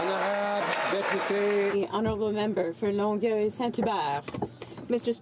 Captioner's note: some Applause